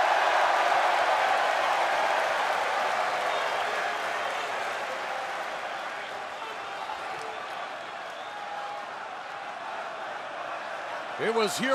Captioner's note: crowd cheering